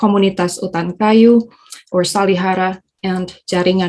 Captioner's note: speaking in foreign language